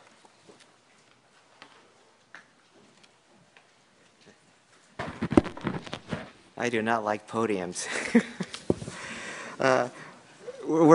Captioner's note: laughter